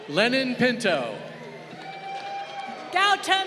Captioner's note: crowd cheering